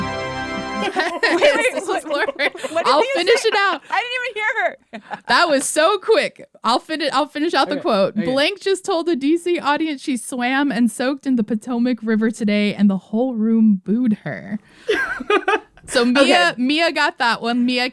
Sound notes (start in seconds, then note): 0.0 soundbite of victory tune; 3.3 laughter